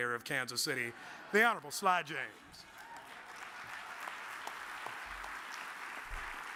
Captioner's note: audience applauds